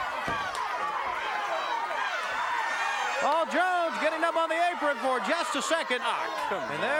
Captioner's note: applause